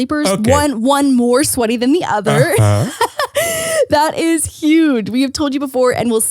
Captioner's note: laughs